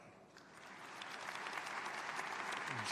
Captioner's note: applause